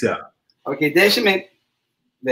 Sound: speaks portuguese

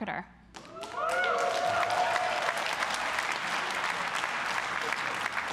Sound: audience cheering and applauding

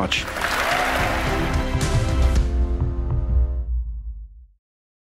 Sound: applause

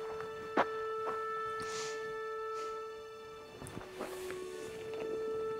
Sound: Christian sniffs

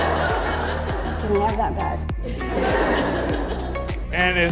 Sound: audience laughs

